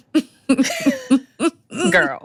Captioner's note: laughs